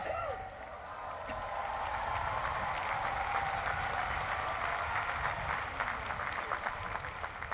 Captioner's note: applause